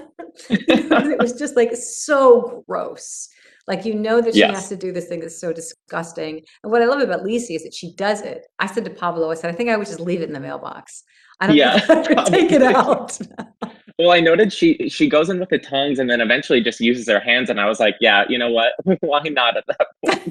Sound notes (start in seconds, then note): 11.4 Julianne laughs; 13.5 laughs